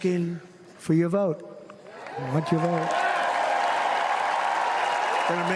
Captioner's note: applause